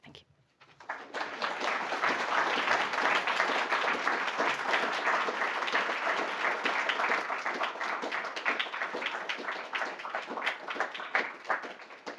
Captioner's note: applause